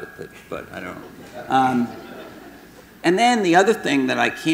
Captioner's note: audience laughing